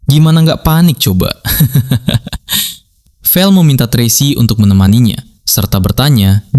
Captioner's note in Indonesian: tertawa